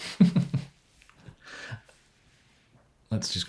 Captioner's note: chuckles